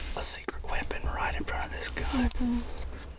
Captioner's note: whispers